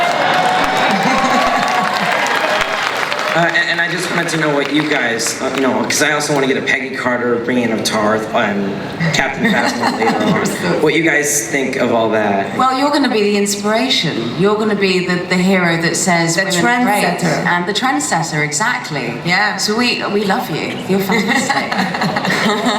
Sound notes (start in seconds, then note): 0.0 audience cheering and applause; 3.7 voiceover; 21.0 laughter